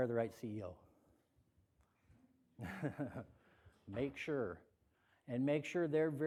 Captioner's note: laughter